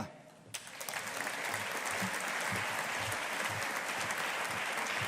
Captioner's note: audience applauding